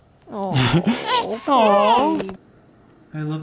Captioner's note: cries